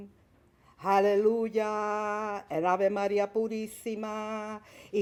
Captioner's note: chanting in Spanish